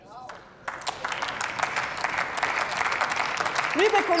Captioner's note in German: Applaus